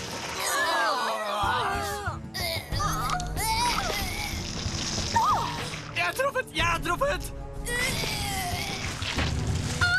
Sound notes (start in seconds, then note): 0.7 gasps